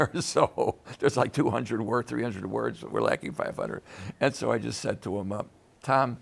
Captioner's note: laughs